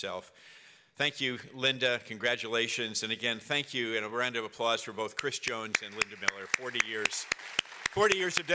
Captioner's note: applause